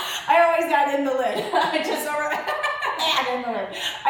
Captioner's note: laughs